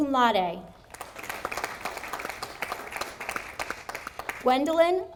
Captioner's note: audience applauding